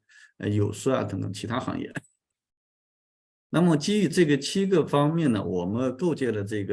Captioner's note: continues to speak in Chinese